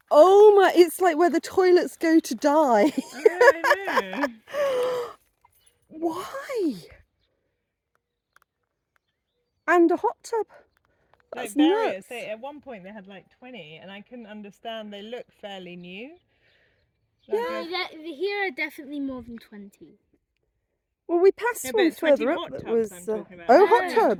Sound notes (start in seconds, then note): 2.8 laughing; 4.4 gasp